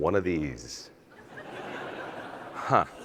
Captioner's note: audience laughs